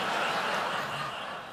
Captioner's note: laughter